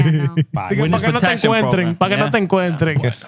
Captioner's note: speaking Spanish